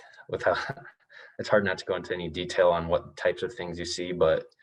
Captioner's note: chuckles